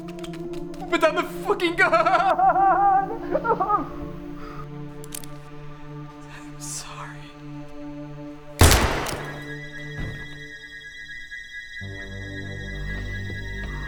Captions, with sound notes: Put down the fucking gun! (sobs) - I'm sorry. (gunshot blasts) (ominous music)